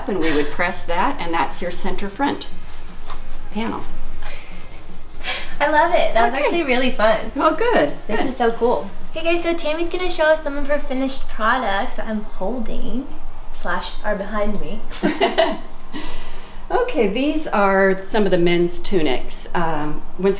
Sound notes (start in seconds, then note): 14.9 laughing